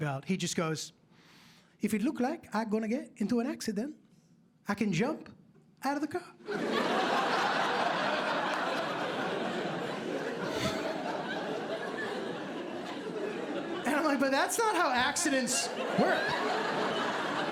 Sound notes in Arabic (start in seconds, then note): 7.0 ضحك